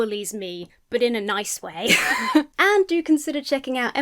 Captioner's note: laughs